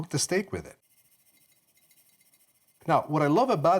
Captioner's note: spices shaking